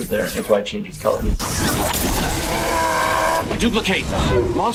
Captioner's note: glass crashing